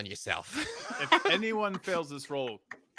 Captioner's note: laughs